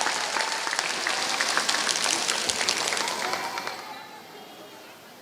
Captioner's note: applause